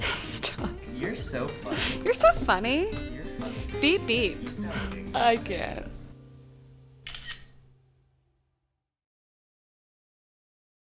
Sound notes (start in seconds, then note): 0.1 laughing; 7.0 camera clicking